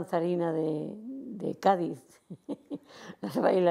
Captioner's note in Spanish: Ríe